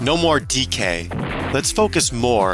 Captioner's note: explosion sfx